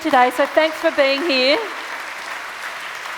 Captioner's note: audience clapping